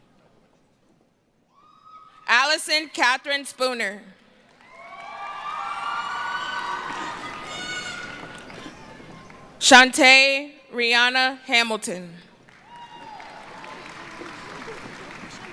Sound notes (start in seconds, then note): 7.7 cheering